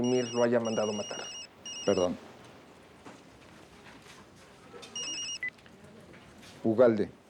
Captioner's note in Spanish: Suena celular